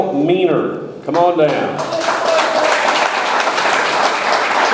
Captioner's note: audience applauds